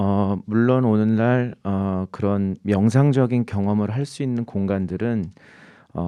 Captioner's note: speaking in Korean